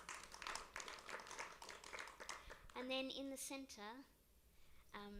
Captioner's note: applause